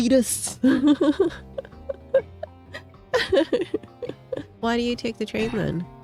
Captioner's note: laughs